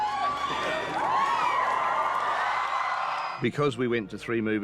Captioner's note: crowd cheering